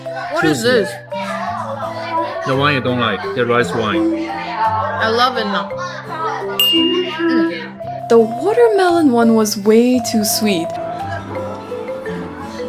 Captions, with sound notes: what is this? the one you don't like the rice wine I love it now (appreciation sound) the watermelon one was way too sweet